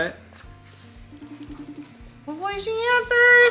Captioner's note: phone ringing